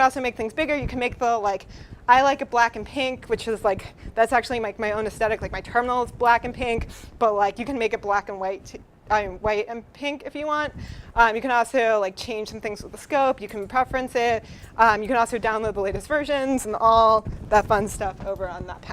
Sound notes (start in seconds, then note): none